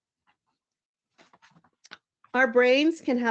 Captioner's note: paper rustles